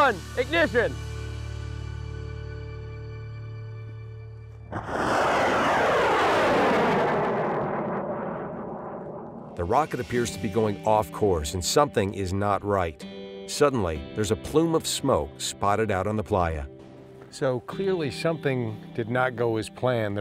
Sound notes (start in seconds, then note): 4.6 rocket launching